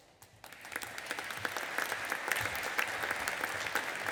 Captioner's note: audience applauding